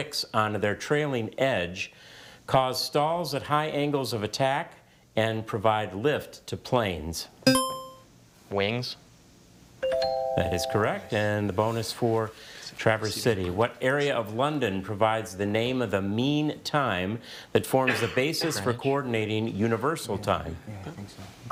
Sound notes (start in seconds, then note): 7.5 buzzer chimes; 9.9 bell chimes